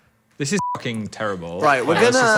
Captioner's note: beep